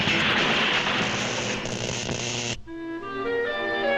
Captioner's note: electricity zaps; light music